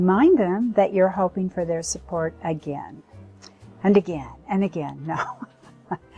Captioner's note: laughs